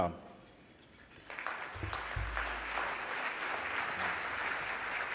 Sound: audience applauding

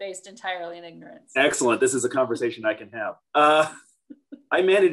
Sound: laughs

